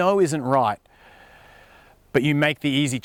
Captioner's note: deep breath